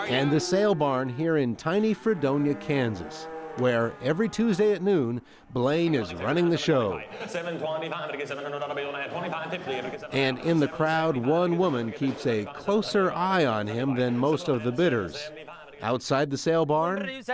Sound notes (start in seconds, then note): 7.4 rapid Auctioneer chant